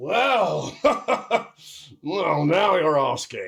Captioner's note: laughs